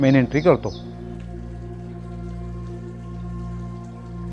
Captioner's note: water gurgling